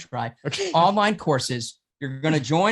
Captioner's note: laughs